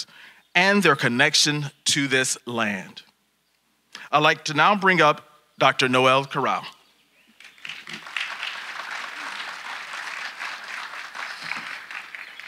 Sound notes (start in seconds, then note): 7.4 audience applauding